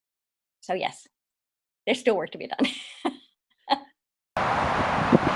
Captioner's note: laughing